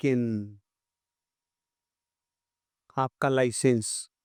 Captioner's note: silence